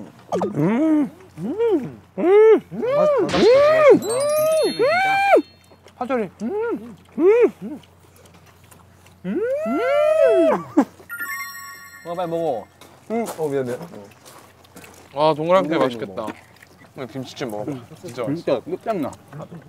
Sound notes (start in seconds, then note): 4.2 Great sound of BOOmily eating under the night sky